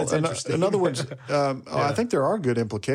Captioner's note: chuckles